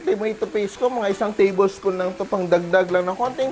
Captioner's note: sizzle